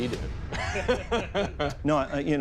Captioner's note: laughter